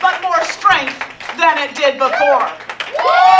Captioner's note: from audience: loud applause